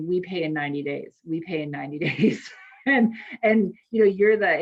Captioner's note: laughs